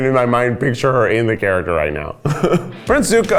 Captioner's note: laughs